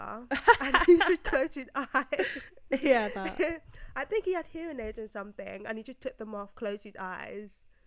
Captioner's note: both: *laugh